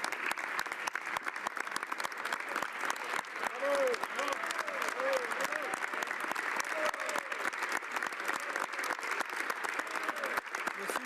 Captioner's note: some Applause